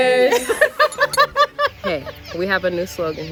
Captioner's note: laughing